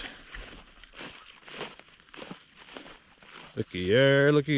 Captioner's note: grass crunching